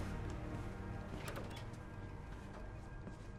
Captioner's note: door opens